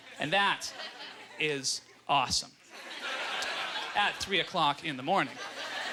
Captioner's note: audience laughter